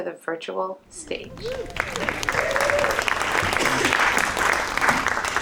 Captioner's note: audience applauding